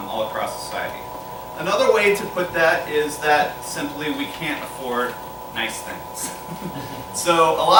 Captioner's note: laughter